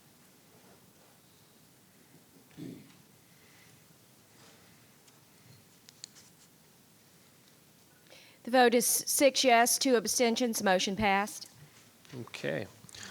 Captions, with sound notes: (pen clicking) - The vote is six yes, two abstentions. Motion passed. - Okay.